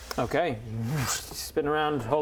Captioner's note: whoosh